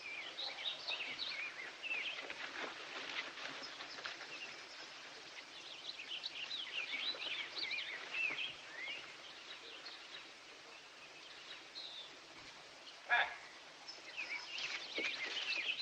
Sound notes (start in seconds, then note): none